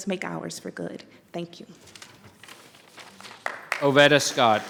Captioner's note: members clapping